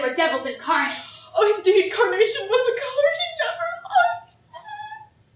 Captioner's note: crying